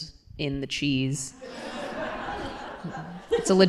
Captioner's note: laughter